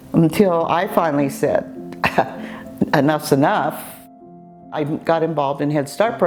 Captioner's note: chuckles